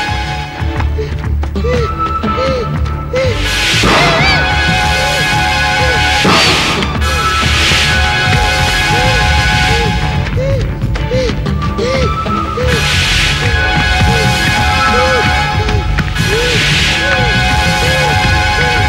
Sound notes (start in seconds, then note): 1.2 panting; 10.2 panting